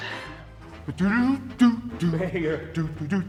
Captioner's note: Mayor Tennity hums